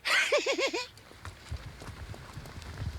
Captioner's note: giggles